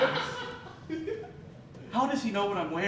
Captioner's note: laughter